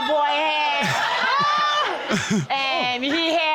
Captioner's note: laughing